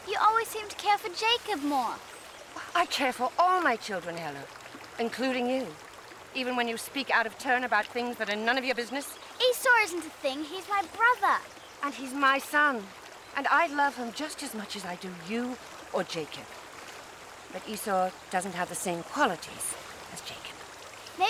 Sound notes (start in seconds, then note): none